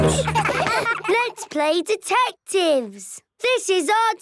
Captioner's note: giggling